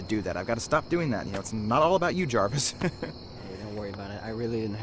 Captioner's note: laughs